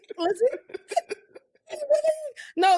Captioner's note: laughing